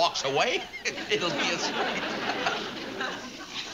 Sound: laughs

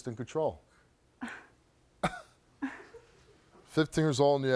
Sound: scoffs

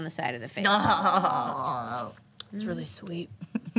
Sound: group laughs and aw's

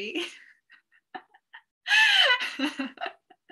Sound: laughs

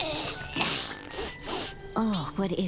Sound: sniffing

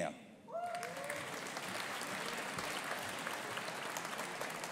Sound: audience applauding

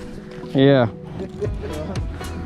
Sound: laughs

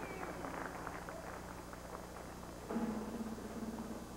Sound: applause

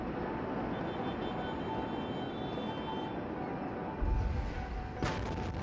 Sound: car horn honking; explosion rumbles

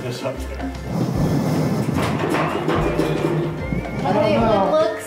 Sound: metal clangs

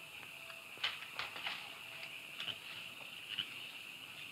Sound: crickets chirping

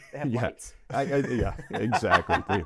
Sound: laugh

